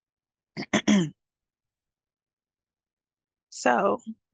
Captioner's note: clears throat